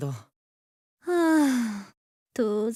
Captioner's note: sigh